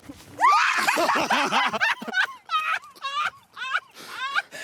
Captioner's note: laughing